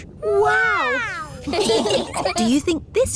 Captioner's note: laughing